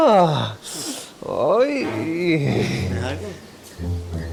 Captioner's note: flirty noises